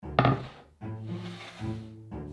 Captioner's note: board sliding; quirky music playing throughout video in background